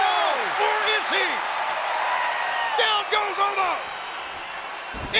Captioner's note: applause